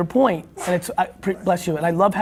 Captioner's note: sneezing